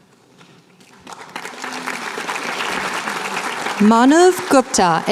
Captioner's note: applause